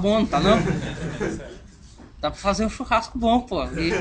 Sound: laughs

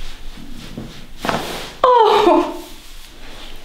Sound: the girl screams after massage

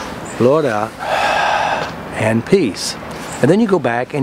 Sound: exhaling; inhaling

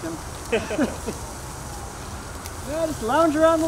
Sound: men laughing

